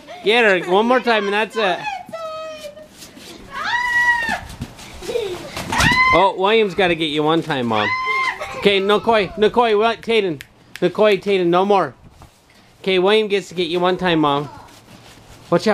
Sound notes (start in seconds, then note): 3.8 screams; 7.8 screams